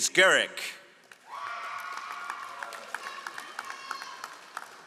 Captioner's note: all applauding